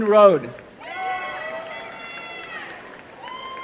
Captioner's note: applause and cheering